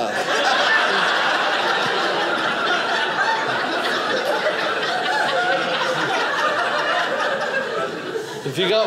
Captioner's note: audience laughing